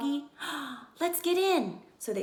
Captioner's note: gasp